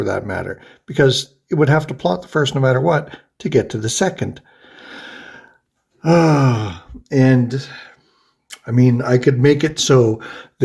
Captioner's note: sighs